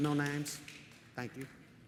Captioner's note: audience member applauding